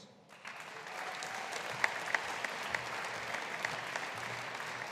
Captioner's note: audience applauding